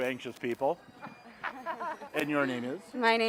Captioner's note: students laughing